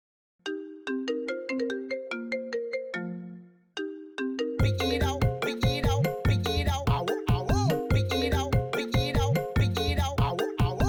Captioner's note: phone ringing